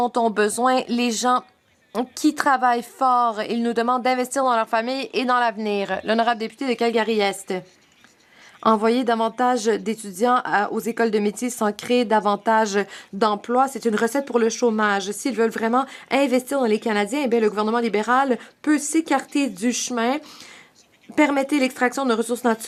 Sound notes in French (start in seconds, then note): 12.1 voix de l'interprète